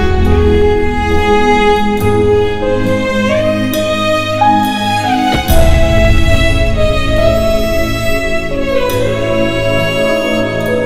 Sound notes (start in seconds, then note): 5.2 Car door closes